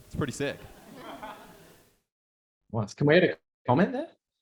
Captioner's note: audience laughing